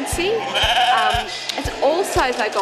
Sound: sheep baas

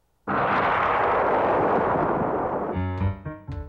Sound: crackling

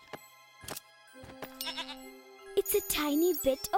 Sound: bleating

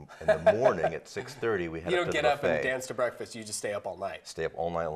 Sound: laughs

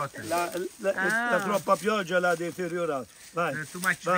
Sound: truffle hunter 2 speaks Italian

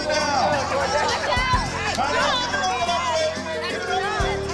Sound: crowd murmuring

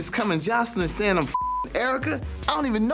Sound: beep

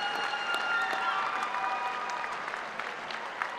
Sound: applause

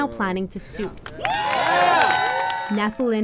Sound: people cheering

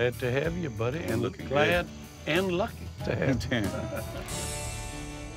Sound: laughs

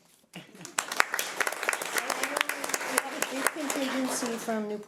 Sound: audience applauds

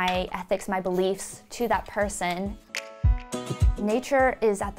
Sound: fingers snap

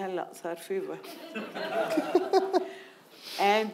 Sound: speaking in foreign language; audience laughing

